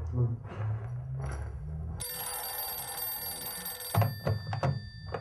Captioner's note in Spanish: timbre de teléfono